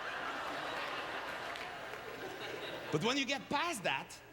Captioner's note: audience laughter